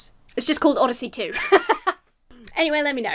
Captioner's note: laughs